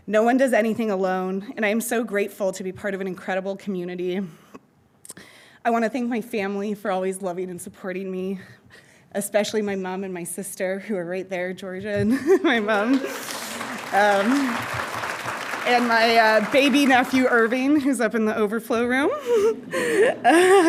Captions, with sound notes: No one does anything alone, and I'm so grateful to be part of an incredible community. I want to thank my family for always loving and supporting me, especially my mom and my sister who are right there, Georgia and my mom. (audience applauding) And my baby nephew Irving, who's up in the overflow room.